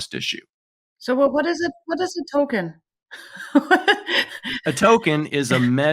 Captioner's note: laughs